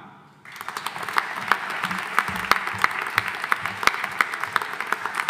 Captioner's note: audience applauding